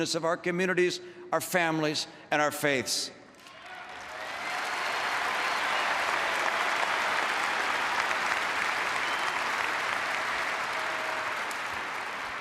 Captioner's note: applause